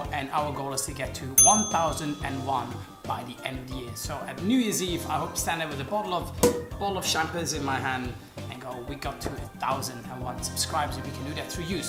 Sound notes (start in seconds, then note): 6.4 cork pops